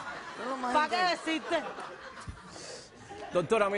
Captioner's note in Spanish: Risas